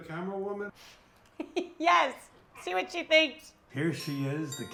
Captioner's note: laughs